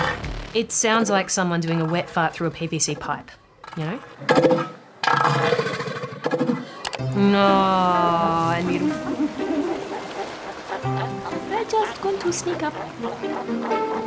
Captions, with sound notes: It sounds like someone doing a wet fart through a PVC pipe, you know? Naww... Little pup. (BABY VOICE) They're just going to sneak up.